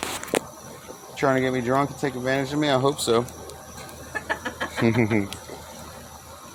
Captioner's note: laughing